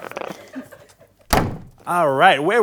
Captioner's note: door shuts